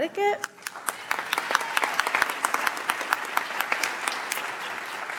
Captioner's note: audience applauds